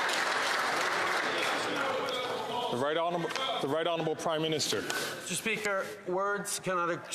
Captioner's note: some Applause